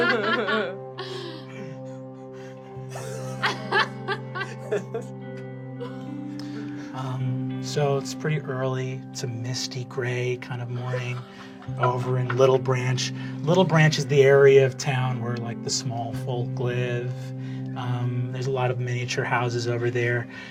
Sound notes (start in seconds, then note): 0.0 laughter continues; 7.5 quietly